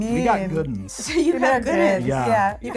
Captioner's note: laughing